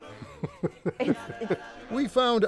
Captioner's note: laughs